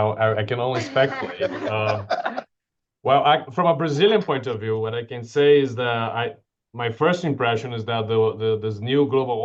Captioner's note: laughter